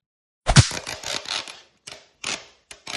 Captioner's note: slap; squeak squwach rrraaak